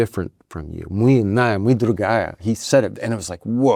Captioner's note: Michael speaks Russian